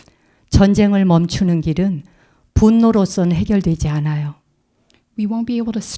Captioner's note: speaking in Korean